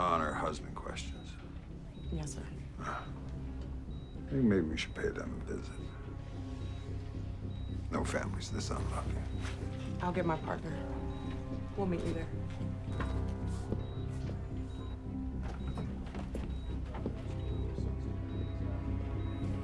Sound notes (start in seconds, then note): 13.7 gentle tense music; 13.7 monitor beeping